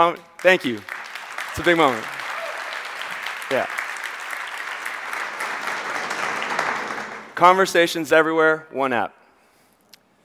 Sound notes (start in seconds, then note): 0.1 audience applauds; 3.3 audience applauds